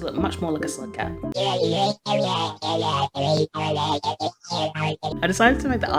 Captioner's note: alien noises